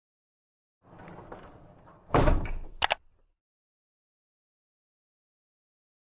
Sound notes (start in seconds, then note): 0.9 mechanical Rolling; 2.8 computer Mouse Click